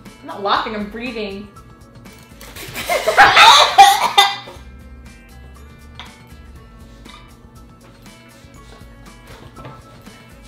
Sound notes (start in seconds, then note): 2.5 spitting; 2.6 gagging and coughing